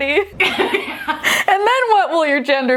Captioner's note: laughing